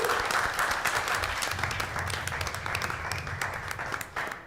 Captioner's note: applause